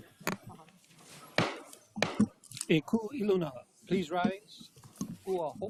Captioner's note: gavel bangs twice